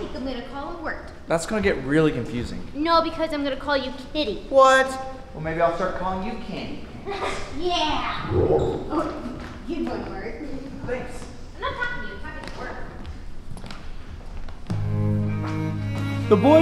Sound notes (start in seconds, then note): 8.2 laughs; 8.2 frog croaks